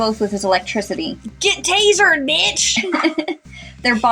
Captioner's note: chuckle